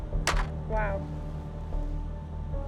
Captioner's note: can clatters